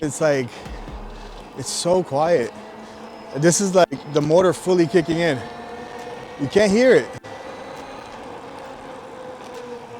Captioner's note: motor sound is magnified due audio being enhanced